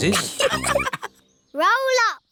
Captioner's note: all laughing